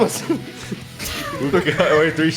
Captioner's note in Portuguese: Todos riem